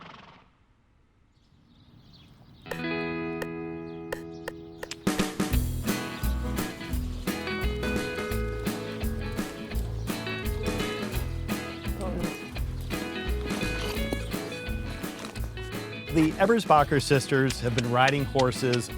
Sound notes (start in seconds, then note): 0.0 horse snorting; 2.2 birds chirping; 4.9 upbeat music; 14.9 upbeat country music